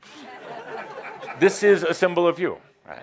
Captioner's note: more laughter